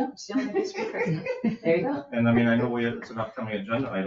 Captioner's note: all chattering